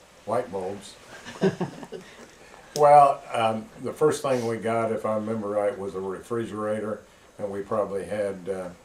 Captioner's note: laughter